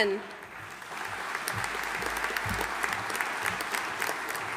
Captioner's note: audience applauding